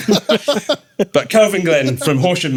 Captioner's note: laughing